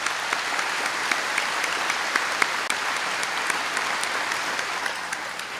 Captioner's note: applause